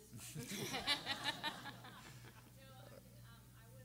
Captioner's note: everyone laughing